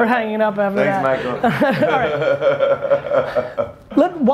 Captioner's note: laughs